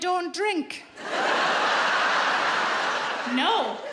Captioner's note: audience laughs